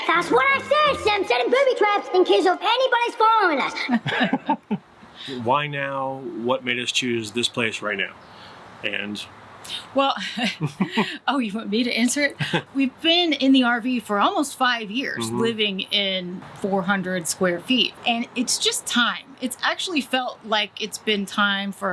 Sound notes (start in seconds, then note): 3.8 both chuckling